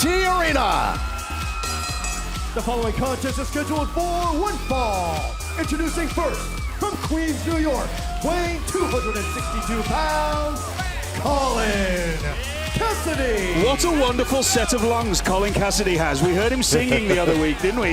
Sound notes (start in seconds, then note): 3.2 bell ringing